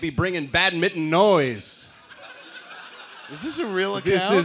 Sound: laughter

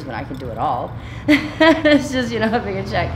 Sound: chuckling

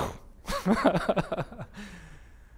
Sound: pastor: Laughter

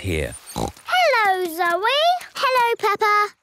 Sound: snorts

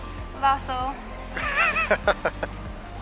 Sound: laughter

